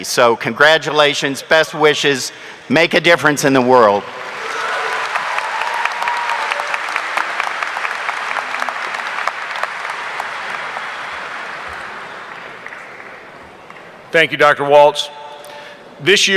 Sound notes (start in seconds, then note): 4.6 audience applauding